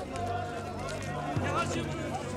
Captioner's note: monks Speak Urgently In Tibetan